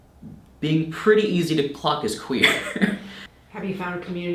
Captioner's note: chuckles